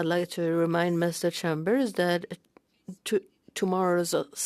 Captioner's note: speaking French